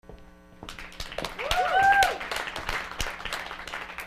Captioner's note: clapping